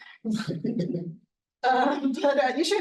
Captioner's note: attendee chuckling